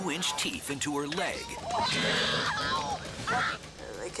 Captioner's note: screaming